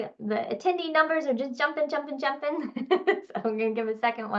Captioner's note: laughing